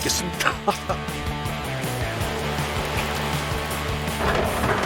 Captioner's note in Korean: 보글 보글